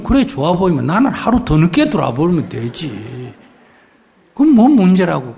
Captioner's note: audience Laughter